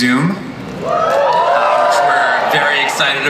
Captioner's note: audience cheers